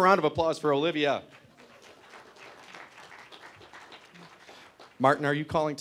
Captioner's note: applause